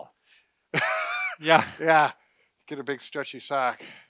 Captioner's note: laughs